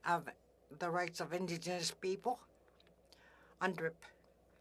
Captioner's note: speaking Indigenous Language